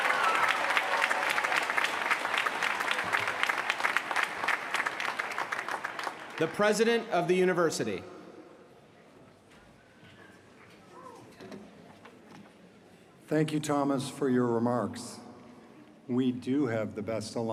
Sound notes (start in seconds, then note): 3.0 cheers & applause